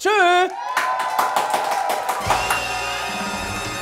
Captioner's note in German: Jubel, Applaus